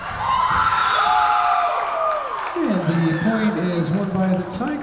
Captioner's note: Tigers cheering; whistle blowing